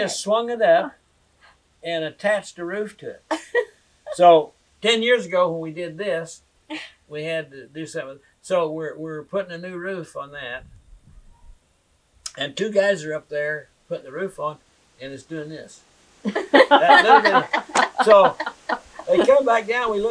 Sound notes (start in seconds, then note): 3.3 laughter